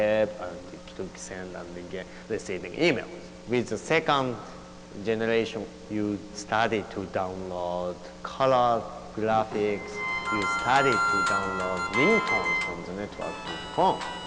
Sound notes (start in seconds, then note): 9.6 phone rings